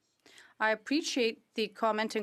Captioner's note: speaking French